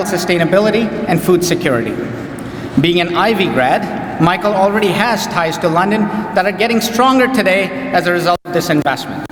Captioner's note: none